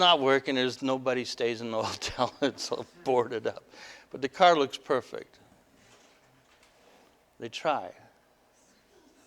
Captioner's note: laughter